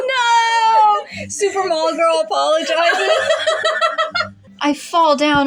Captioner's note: laugh